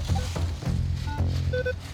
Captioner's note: beeping